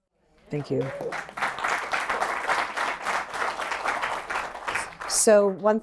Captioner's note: applause